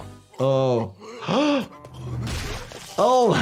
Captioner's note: doctor gasps; doctor laughs